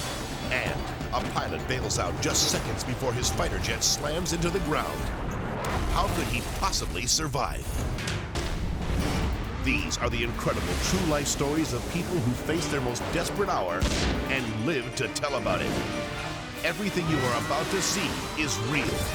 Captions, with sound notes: And a pilot bails out just seconds before his fighter jet slams into the ground. How could he possibly survive? (jet crashing) (dramatic music) These are the incredible true life stories of people who face their most desperate hour and live to tell about it. (explosion blasting) Everything you are about to see is real.